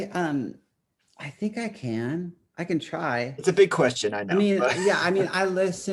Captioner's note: chuckles